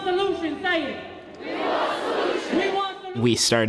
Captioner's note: crowd